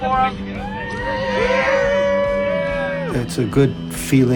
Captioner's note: cheering